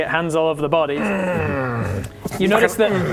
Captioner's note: hrggggggggggh